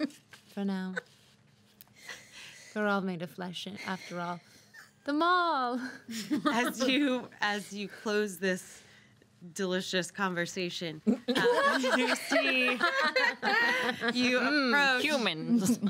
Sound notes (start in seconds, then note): 11.1 girls laughing